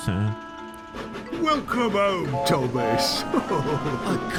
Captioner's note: chuckles